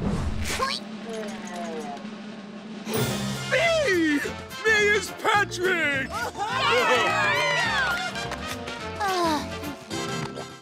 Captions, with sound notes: [grunting] Me. Me is Patrick. [cheering] [sighing]